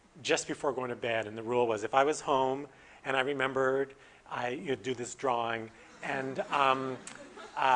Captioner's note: audience: Laughter